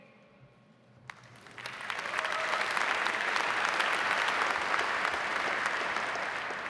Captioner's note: audience applauding; audience cheering